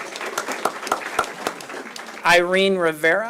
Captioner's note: applause